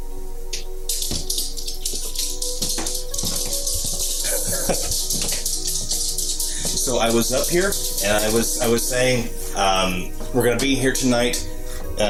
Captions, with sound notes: (laughing) So I was up here and I was saying we're gonna be here tonight,